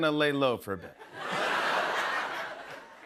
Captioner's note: laughter